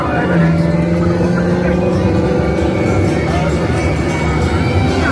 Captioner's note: engine revving